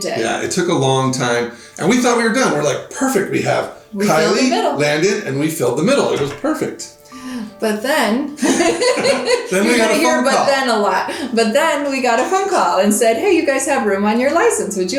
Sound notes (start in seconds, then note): 8.4 both laughing